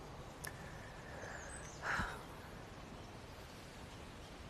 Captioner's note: exhaling sharply